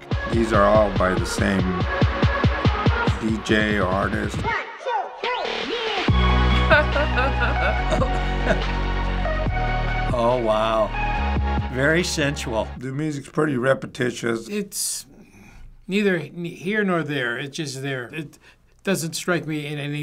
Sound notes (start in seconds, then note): 6.5 chuckles; 6.5 laughs